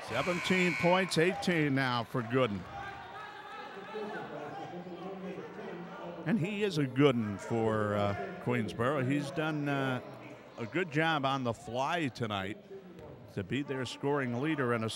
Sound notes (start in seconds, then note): 0.2 buzzer buzzes; 2.9 yelling